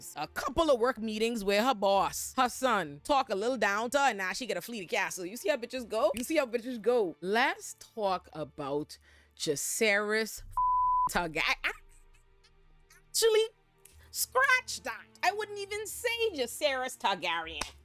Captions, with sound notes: a couple of work meetings with her boss, her son, talk a little down to her and now she get a flea castle. You see how bitches go? You see how bitches go. Let's talk about Jisaris (beep) Targaryen. Ah, Julie, scratch that. I wouldn't even say Jisaris Targaryen.